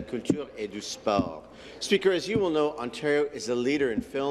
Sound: speaking in French

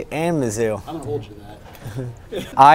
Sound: chuckling

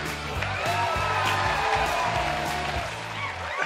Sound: cheers and applause

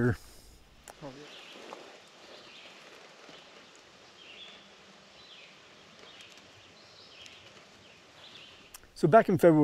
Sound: birds Chirping

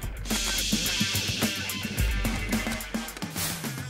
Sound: steam hissing

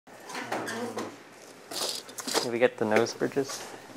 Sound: office shuffling

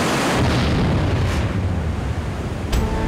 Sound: water roaring

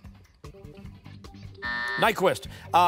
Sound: timer

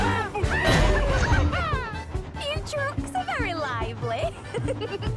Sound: Rebecca Laughs

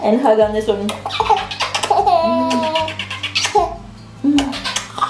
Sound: baby laughing

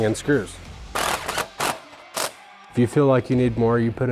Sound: mechanical whirring

